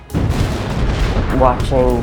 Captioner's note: explosion booms